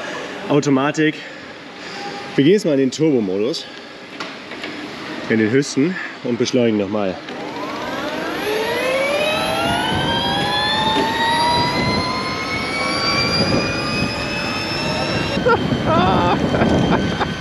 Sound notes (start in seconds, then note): 7.1 engine noise; 15.8 laughter